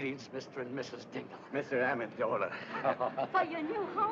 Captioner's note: chuckling